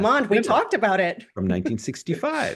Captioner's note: laugh